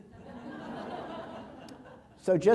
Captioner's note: laughter